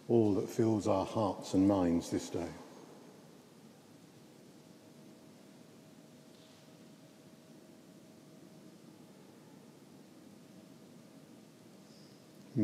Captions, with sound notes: all that fills our hearts and minds this day. (silence is kept)